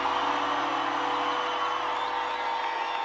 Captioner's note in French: cris de la foule